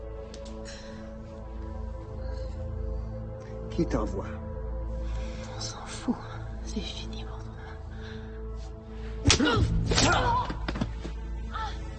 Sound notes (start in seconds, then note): 5.2 Lily speaking French